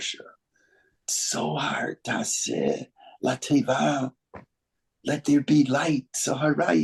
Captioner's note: speaking Hebrew